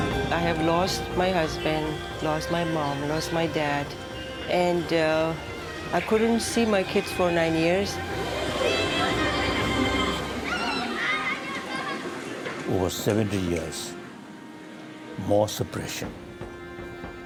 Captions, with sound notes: - I have lost my husband, lost my mom, lost my dad, and I couldn't see my kids for nine years. (children exclaim) (children squealing) - Over 70 years, more suppression,